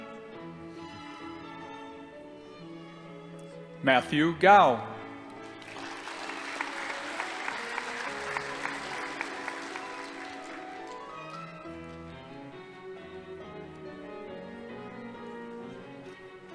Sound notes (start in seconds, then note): 5.3 audience applauding